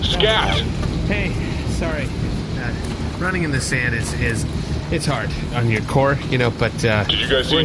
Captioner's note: breathless